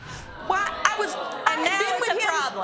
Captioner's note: stammering